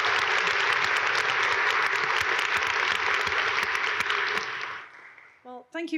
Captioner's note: audience applaud